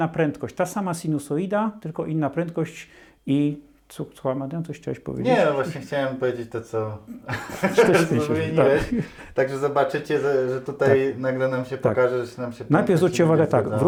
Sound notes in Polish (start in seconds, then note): 7.1 śmiech